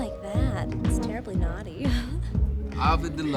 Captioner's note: laughs